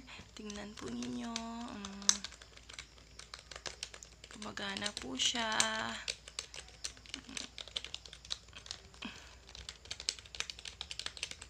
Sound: keys clicking

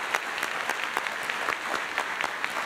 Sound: applause

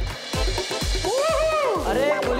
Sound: cheering

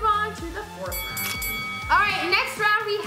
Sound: bell dings

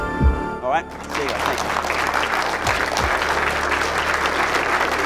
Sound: applause

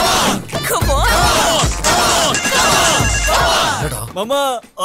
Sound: phone rings

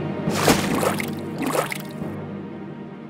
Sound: water splash and bubbling sound

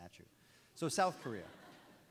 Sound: audience laughs

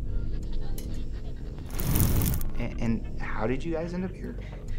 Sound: radio static zapping

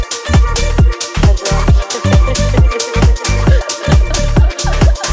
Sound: laughter echoes

